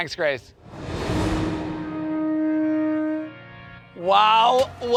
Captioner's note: ship horn